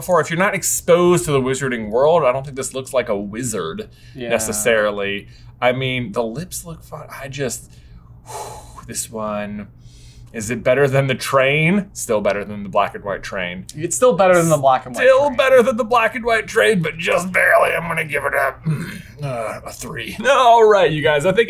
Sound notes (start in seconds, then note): 8.2 blows